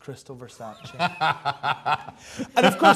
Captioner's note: laughs